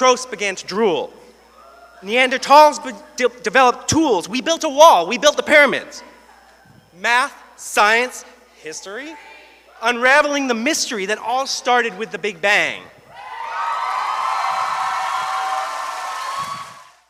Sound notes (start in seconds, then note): 13.1 cheers